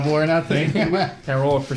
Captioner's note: laughs